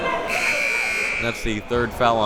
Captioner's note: timer buzzes